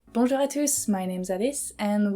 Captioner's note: speaks in french